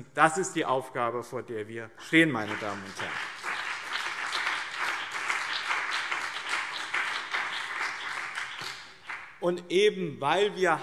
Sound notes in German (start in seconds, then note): 4.2 Beifall BÜNDNIS 90/DIE GRÜNEN und CDU